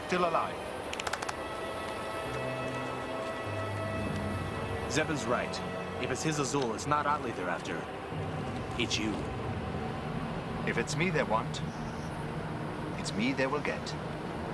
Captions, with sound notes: and we are still alive. (clapping) - Zzeben's right. If it's Hissah Zul, then it's not Otli they're after. It's you. - If it's me they want, it's me they will get.